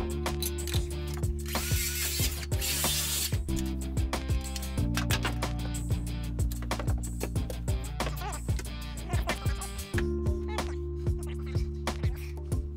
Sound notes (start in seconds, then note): 1.8 sander buzzes